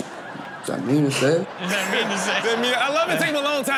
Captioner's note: audience laughs